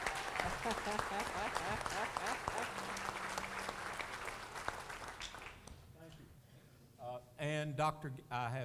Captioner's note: applause